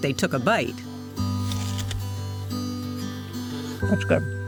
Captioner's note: crunching